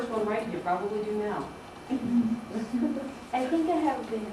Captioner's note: laughter